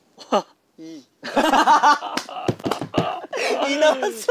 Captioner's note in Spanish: Jajaja